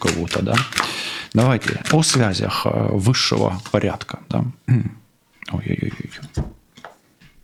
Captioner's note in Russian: откашливается